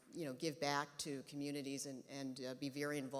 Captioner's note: none